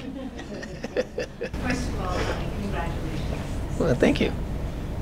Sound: laugh

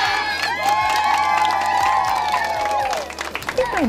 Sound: cheering

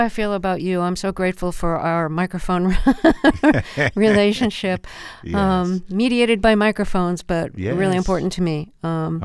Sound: laughter

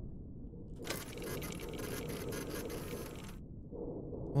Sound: machine whirring

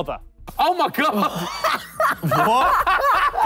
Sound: laughing

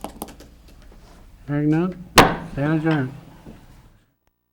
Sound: gavel hits on sound block

